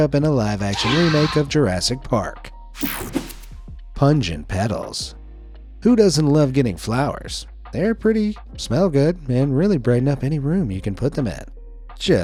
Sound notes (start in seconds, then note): 0.7 dinosaur shrieking; 2.8 screen swishing; 2.8 screen whooshing